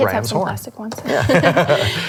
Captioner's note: laughs